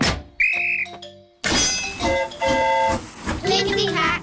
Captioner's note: blows whistle; train horn toots